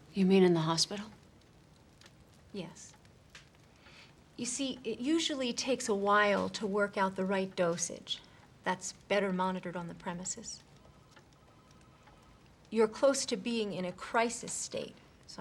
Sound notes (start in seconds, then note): none